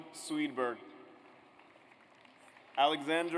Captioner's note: audience applauds